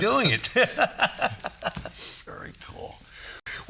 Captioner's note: all laughing